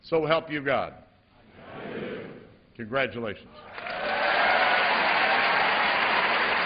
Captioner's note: applause